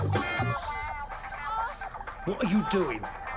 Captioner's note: woman moaning on TV